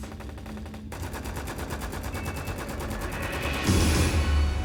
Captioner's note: gunfire on tv continues